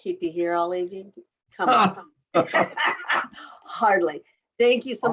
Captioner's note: all laughing